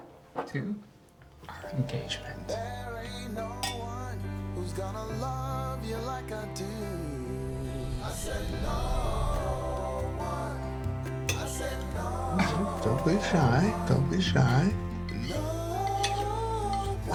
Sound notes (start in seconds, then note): 11.2 the sound of utensils being used